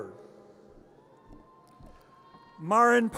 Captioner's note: audience cheers